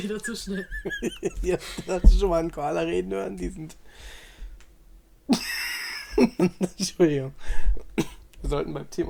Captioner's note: laughs; laughs